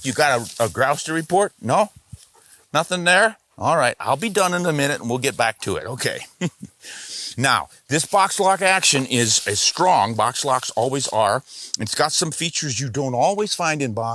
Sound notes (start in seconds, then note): 6.1 chuckles to himself